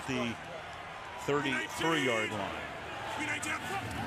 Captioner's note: pa announcement